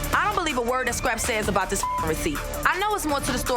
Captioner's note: beep